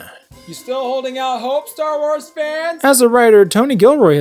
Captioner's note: away from the microphone